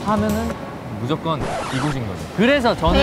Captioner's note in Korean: 급브레이크